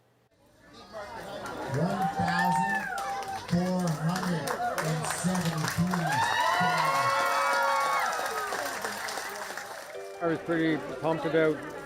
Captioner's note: applause